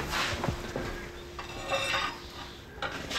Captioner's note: metal scraping